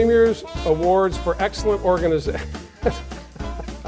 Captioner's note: laughs